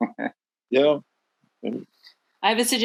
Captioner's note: laughing